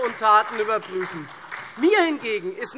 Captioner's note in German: Beifall SPD, BÜNDNIS 90/DIE GRÜNEN und DIE LINKE